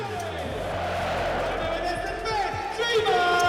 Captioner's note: chant